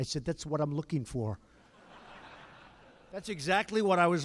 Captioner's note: laughter